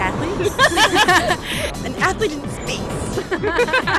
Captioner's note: laughter